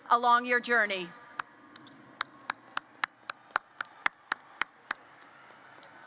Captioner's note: applause